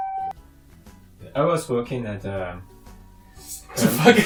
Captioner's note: ambulance sounds